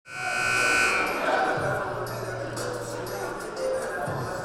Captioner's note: buzzer sounding; R&B music playing